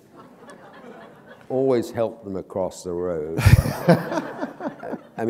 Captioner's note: laughter